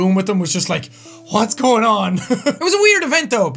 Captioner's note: giggle